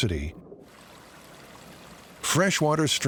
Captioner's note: water lapping